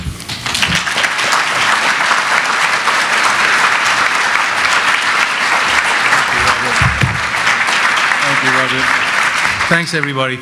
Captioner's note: applause